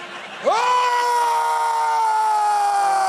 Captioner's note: screams